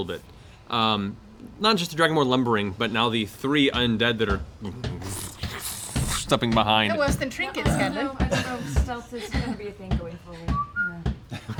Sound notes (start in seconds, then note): 4.5 groaning; 10.4 whistling